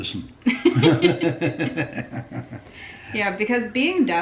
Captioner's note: laughing